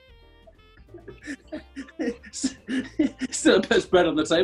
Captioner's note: giggling